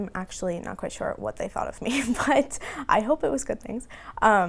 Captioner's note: laughing